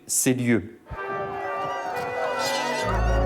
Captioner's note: swords clang; battle cries ring